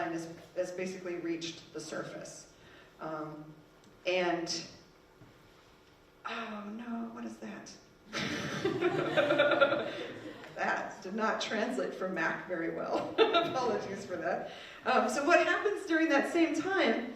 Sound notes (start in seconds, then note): 8.1 people laughing